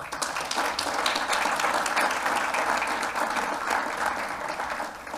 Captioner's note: applause